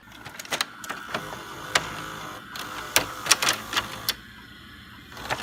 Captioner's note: video tape machine sounds